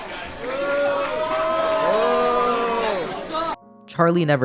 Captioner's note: crowd heckling